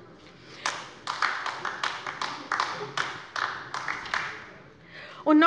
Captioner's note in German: Beifall bei der LINKEN